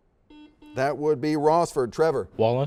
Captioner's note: series of beeps